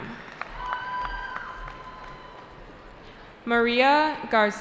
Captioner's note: cheering